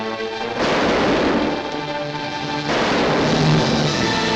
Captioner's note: suspenseful music; guns fire